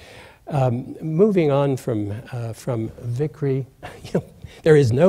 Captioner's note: laughs